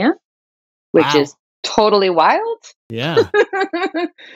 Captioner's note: laughter